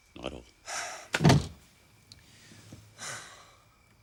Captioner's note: Jeff sighs